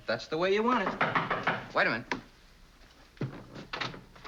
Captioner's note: knocking on door